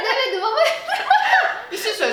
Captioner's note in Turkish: gülüşmeler